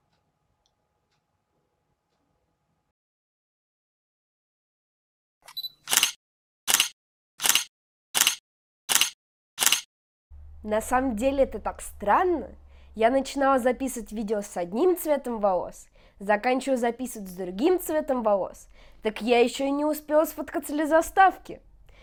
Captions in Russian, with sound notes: [звуки камеры] На самом деле это так странно. Я начинала записывать видео с одним цветом волос, заканчиваю записывать с другим цветом волос, так я ещё и не успела сфоткаться для заставки.